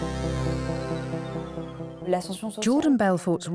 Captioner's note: non-english speech